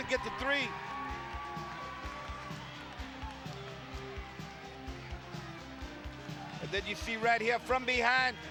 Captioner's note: applause